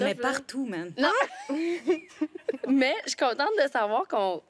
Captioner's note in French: rires